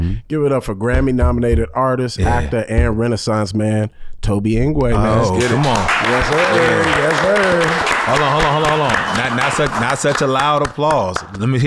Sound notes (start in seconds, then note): 5.1 audience applauds